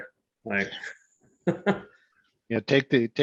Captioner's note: laughs